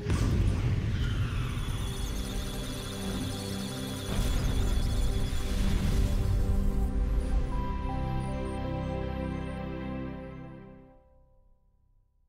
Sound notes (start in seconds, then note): 1.6 electronic sounds of data; 2.2 musical Tones